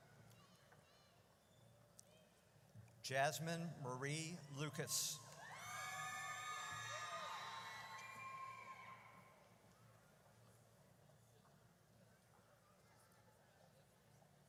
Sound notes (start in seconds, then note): 5.4 audience cheers